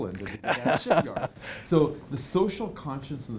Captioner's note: laughing